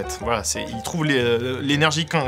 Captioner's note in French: none